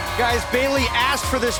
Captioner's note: cheers & applause